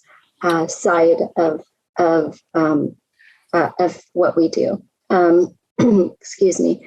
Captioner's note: coughs